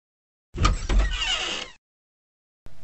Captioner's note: Door Opens